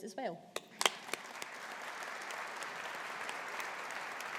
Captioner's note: audience applauding